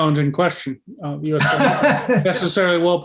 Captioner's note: laughs